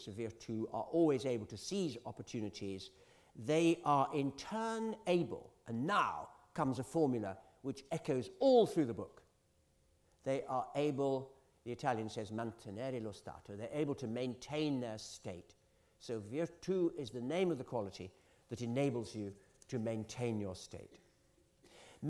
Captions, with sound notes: the virtu-- are always able to seize opportunities, they are, in turn, able-- and now comes a formula which echoes all through the book-- the Italian says [ITALIAN]-- to maintain their state. So virtu is the name of the quality that enables you to maintain your state.